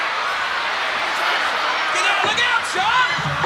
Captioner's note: crowd cheering